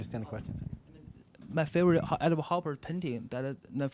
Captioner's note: voiceover